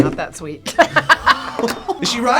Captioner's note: both laugh